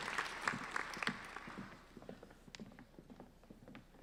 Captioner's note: applauding